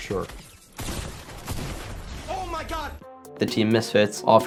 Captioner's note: gunfire